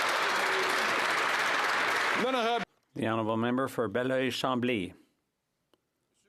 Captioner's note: some Applause